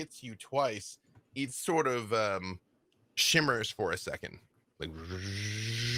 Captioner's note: hums